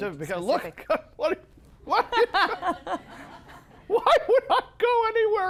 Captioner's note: Roebuck chortling incoherently